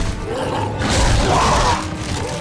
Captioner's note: growling